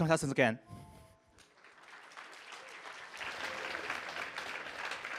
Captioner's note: applause